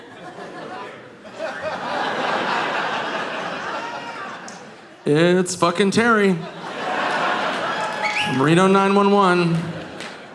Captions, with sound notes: (audience laughing) It's fucking Terry. From 'Reno 911.'